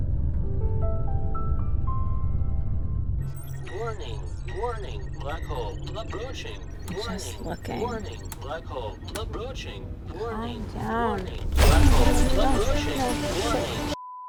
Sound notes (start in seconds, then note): 2.8 system beeping